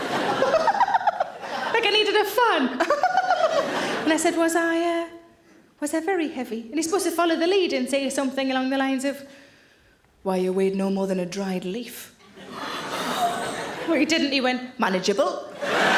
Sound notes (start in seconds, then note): 0.0 audience laughing; 2.8 laughing; 12.3 audience laughing; 15.5 audience laughing